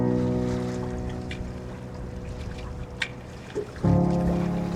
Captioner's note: water splashing